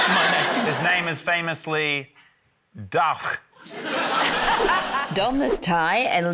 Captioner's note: german accent; laughter